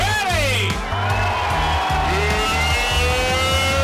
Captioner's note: cheering